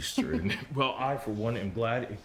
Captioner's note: Rachel chuckles